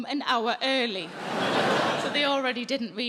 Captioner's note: audience laughing